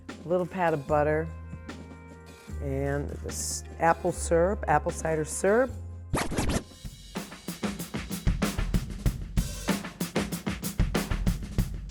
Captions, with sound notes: A little pad of butter and this apple syrup, apple cider syrup. (rhythmic scratching) (bright music)